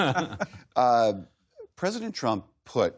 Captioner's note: laughter